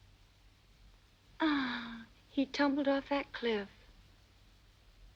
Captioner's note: sighs